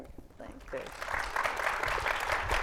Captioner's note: group clapping